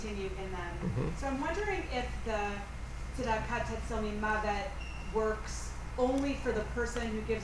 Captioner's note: foreign language